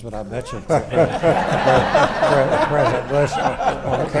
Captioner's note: audience laughs